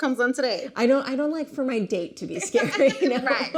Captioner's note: laughing; laughs